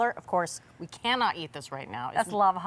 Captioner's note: none